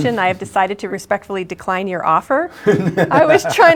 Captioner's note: laughter